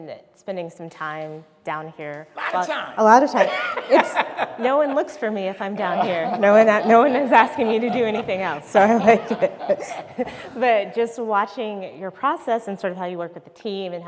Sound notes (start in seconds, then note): 4.3 speaker laughing; 9.6 speakers laughing